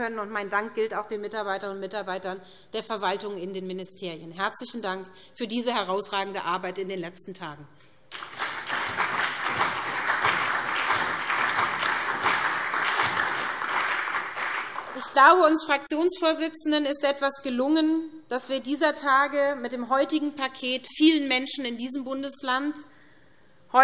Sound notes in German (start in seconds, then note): 8.1 Beifall SPD, CDU, BÜNDNIS 90/DIE GRÜNEN, Freie Demokraten und DIE LINKE